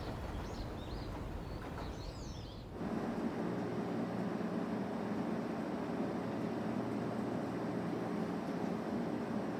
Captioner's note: wind blowing